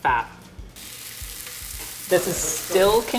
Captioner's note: pan sizzling